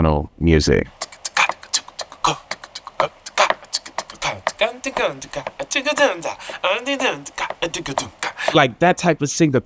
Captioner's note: beatboxing